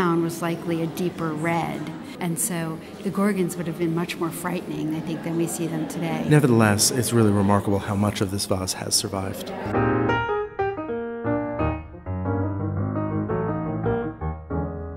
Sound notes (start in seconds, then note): 6.5 voiceover; 9.6 lighthearted music